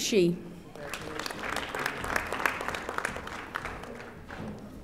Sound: audience applauding

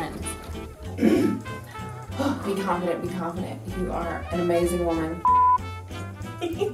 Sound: clears throat

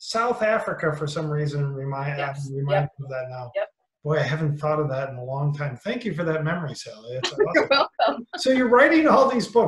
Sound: laughter

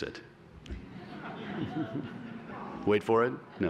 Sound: laughter

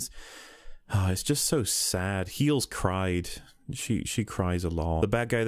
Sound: sigh

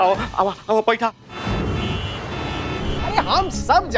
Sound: cars honking

